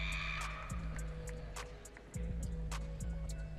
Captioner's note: audience cheering